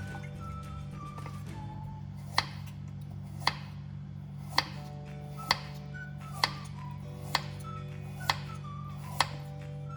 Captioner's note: chopping sound